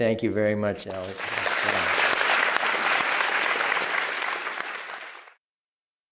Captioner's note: applause